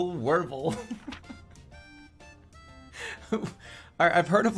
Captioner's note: laughing